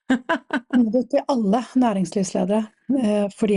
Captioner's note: laughs